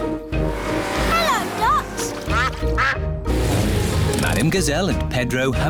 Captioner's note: quacking